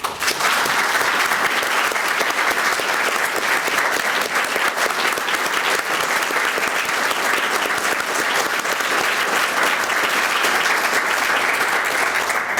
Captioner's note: applause